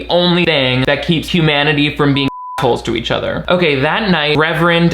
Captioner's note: beep